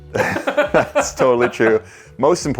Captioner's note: laughing